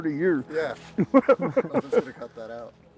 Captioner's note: laughs